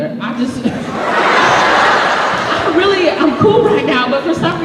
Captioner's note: laughter